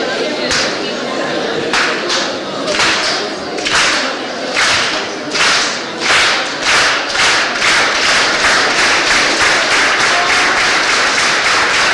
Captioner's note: clapping